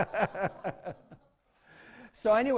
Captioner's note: laughs